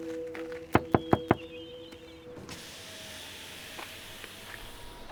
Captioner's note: knocking on window